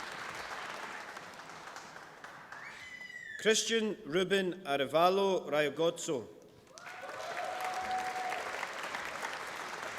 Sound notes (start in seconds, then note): 6.6 applause